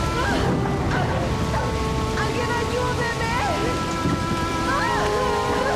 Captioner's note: yells